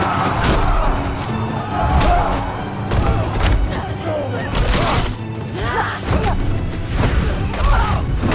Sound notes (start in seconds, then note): 4.1 all grunting